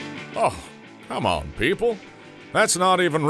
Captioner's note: scoffs